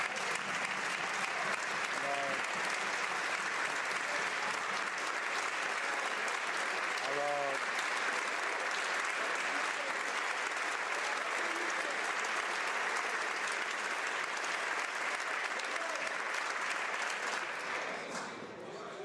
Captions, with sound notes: CONSERVATIVES THINK AND SAY. [ Some Applause ]